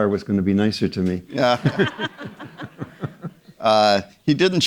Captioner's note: audience members laughing